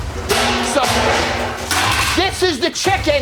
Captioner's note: tray clatters